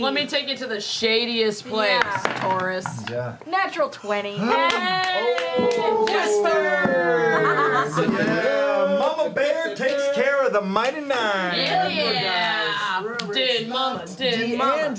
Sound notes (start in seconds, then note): 4.6 cheering; 12.9 chants